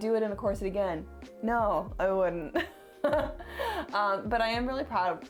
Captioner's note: laughs